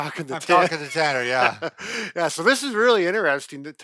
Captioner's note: laughs